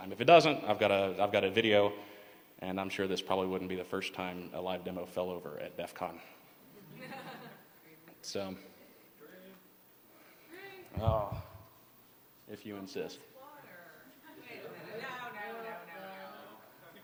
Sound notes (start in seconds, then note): 6.7 laughter